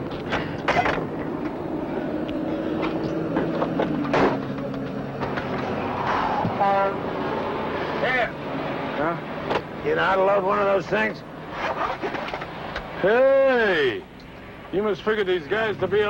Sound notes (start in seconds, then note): 0.5 door thuds open; 3.8 door thuds close